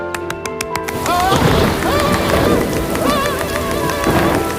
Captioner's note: fireman screams